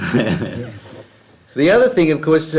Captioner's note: laughs